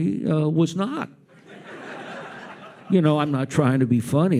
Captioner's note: audience laughs